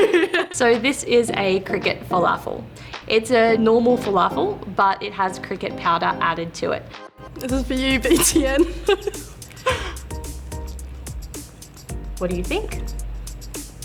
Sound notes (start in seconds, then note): 9.5 laughs nervously